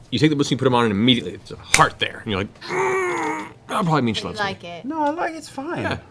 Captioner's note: pained